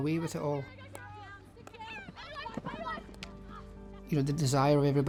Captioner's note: girls yelling